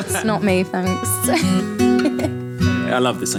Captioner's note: laughing